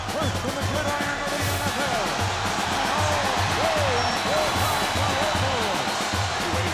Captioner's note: percussive music continues; Michael speaks faintly